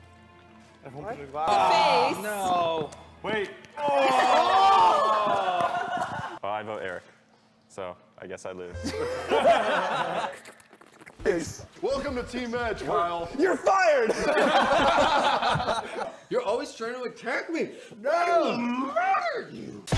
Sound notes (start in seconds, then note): 10.2 slurps again; 14.0 laughter